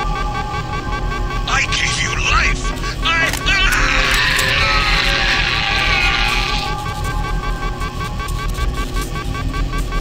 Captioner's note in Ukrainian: крики